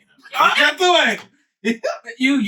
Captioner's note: speaking In Foreign Language